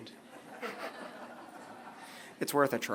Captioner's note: laughter